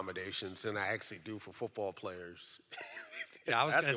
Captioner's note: laughs